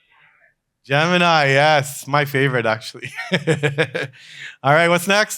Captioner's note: laughs